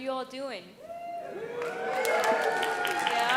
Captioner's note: audience cheering and applauding